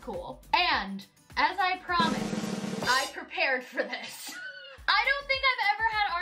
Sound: laughs

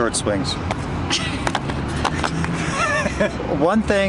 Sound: feet pattering

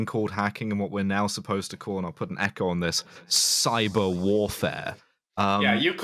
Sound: reverb

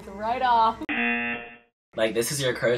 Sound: buzzer rings

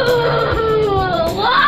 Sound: crying

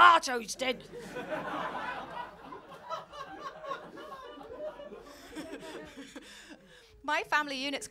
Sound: laughter

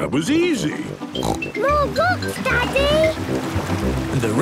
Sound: snorts

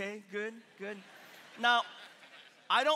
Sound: congregation laughing

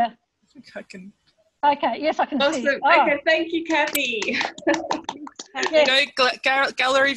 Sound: clapping

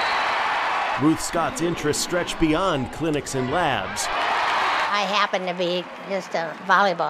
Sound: cheering

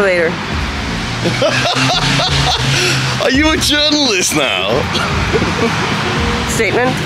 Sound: counterfeit laughs

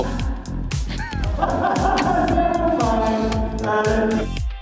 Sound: laughter

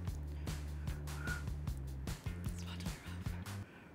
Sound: upbeat music; blows air; whispers

